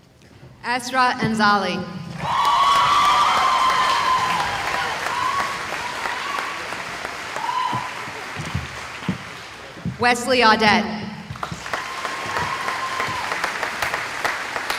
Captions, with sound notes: Astra Anzali [cheering] Wesley Audette [cheering]